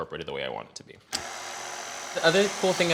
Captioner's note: mixer whirring